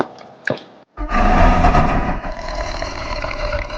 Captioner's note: snarling